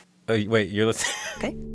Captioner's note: laughter